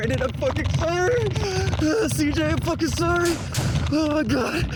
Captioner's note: heavy breathing